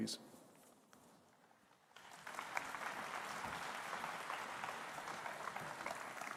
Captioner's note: applause